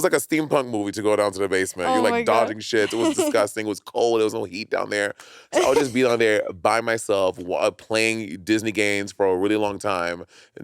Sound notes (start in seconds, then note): 2.8 chuckling